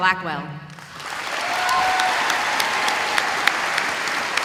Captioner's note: audience applauding